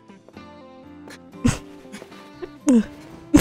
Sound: mimics zack’s crying; laugh noise

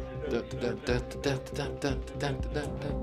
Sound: humming

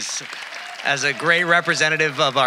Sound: audience applauding

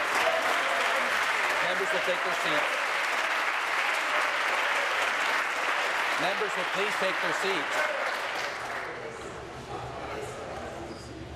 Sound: applause

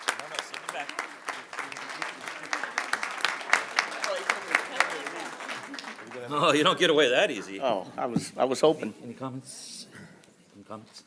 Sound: applause

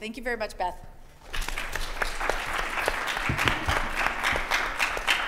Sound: audience applauding

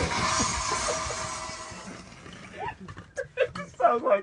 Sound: cracking up

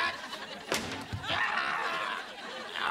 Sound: grunting

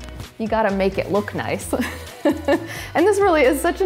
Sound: chuckles

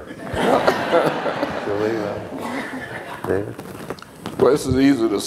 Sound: laughter

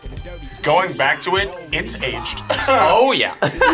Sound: laughs

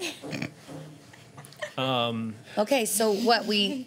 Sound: snickering

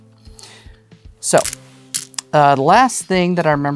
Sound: stones clattering

